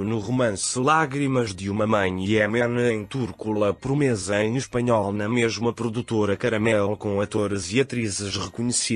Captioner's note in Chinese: 西班牙语